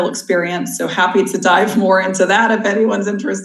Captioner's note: laughs